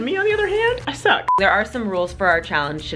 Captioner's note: beeping